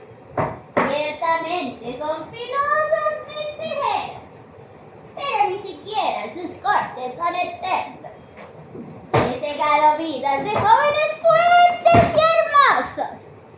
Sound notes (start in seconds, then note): none